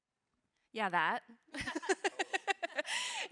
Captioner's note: laughs